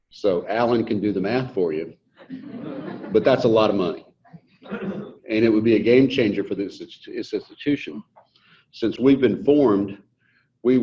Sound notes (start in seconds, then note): 2.2 audience laughs